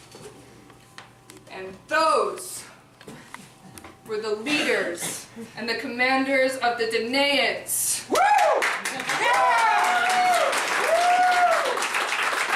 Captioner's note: thunderous applause